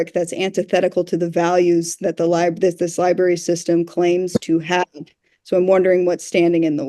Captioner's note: none